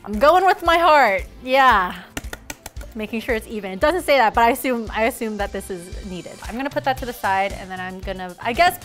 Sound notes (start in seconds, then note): 2.1 tapping the pan